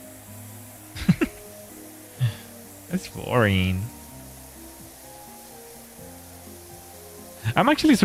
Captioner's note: laughter